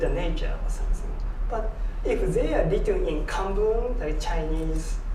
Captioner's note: japanese